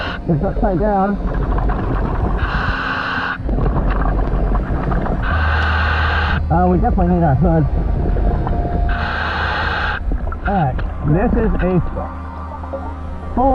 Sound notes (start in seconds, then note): 8.8 oxygen mask hissing